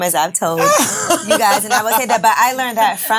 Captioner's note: ladies laughing